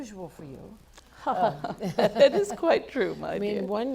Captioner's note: chuckle